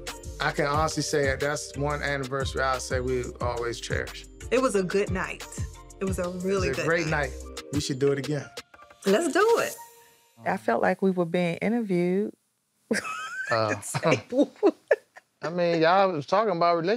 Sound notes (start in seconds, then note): 13.0 laughing